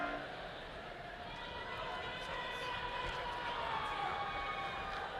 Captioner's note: people chattering distantly; people cheer